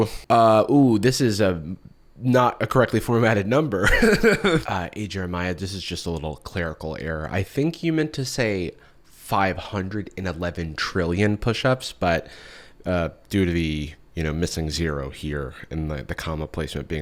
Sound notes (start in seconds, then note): 3.8 laughs